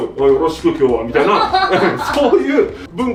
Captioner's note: hahahaha